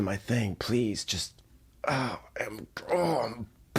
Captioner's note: grunting